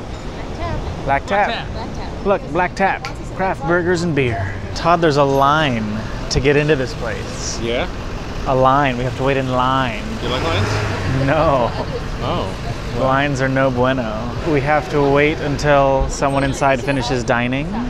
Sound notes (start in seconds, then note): 11.3 emphatically chuckles